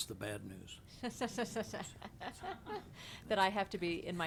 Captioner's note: laughs